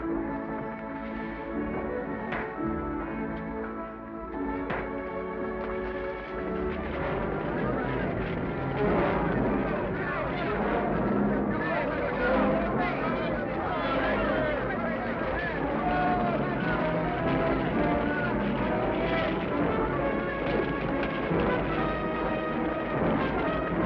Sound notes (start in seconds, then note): 0.3 peaceful music; 8.1 men shouting; 8.1 tense music; 21.0 exciting music